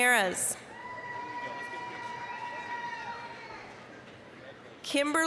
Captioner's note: applause, cheering